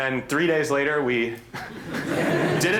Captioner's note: laughter